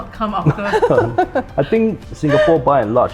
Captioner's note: everyone laughs